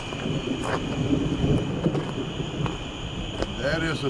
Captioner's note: thunder rumbling